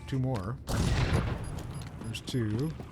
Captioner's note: gunshots